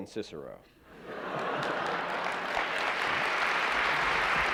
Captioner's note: laughter; applause